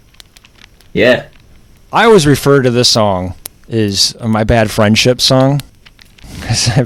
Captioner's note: laughs